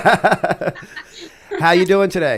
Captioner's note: laughter